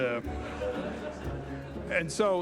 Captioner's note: audience laughing